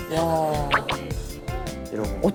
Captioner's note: smack